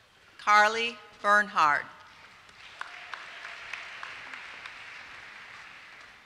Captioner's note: applause